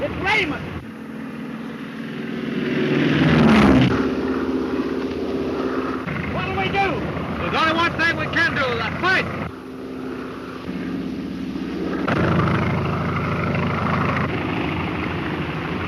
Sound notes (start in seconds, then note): 1.4 airplane engine roaring; 10.5 airplane engine roaring